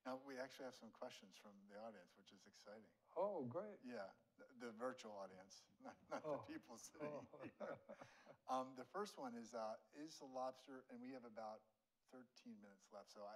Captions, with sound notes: Now, we actually have some questions from the audience, which is exciting. - Oh, great. - The virtual audience, not the people sitting in here. (both laughing) The first one is, is the lobster, and we have about 13 minutes left.